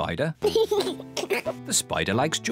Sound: laughs

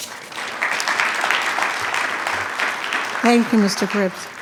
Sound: attendees clapping

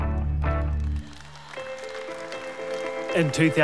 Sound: audience clapping

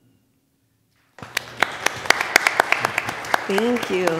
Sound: applause

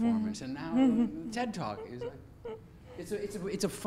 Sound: giggles

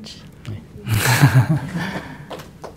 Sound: laughter

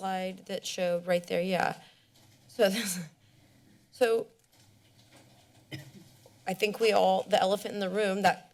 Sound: chuckles

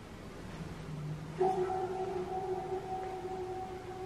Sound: echoing noises

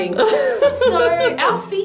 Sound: laughing

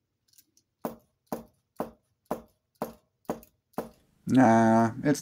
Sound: tapping sound

